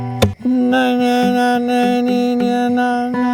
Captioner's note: humming